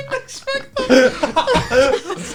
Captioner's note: laughs